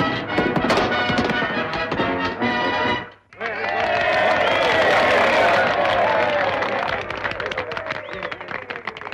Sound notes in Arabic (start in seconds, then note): 3.2 هتافات الجمهور